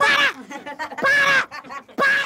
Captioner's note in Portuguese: risadas